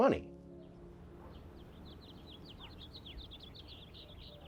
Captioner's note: birds chirping